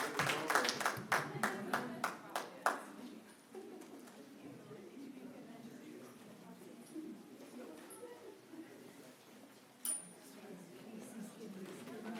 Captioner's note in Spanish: aplaudiendo